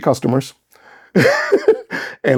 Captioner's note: laughs